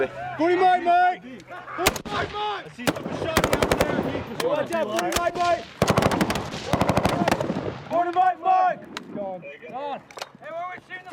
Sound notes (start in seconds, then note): 4.9 yelling